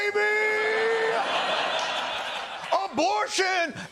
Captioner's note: laughter